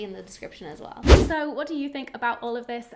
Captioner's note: air whooshing